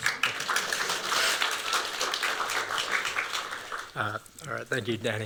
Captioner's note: applause